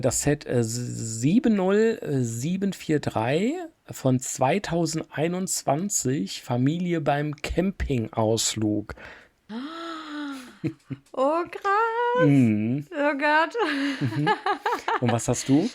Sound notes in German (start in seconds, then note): 6.2 japst; 10.6 gelächter